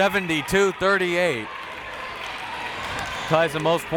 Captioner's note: crowd clapping